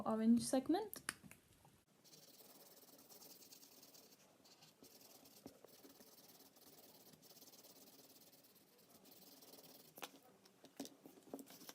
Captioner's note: scribbling